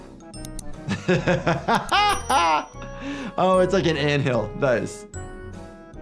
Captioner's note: laughs